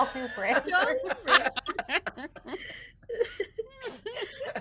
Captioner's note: people laughing